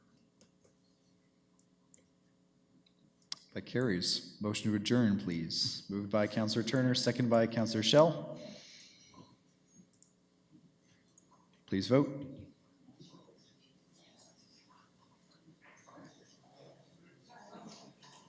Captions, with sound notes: That carries. Motion to adjourn, please. Moved by Councillor Turner, seconded by Councillor Schell. Please vote. [chatter]